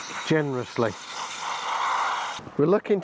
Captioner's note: spray can spraying